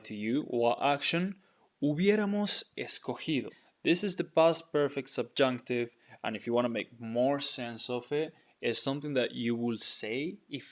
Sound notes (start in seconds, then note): 2.0 speaking in Spanish